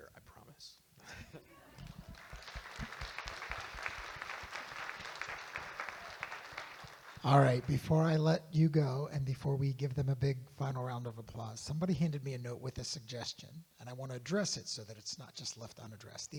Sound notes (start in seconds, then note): 1.0 chuckles; 1.5 audience Applauding